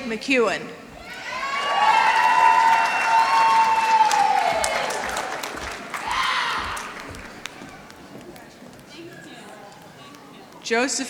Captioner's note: applause